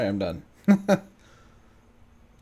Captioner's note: laughs